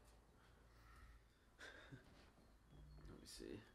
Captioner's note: chuckles